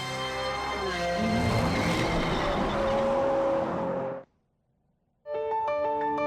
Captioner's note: engine revving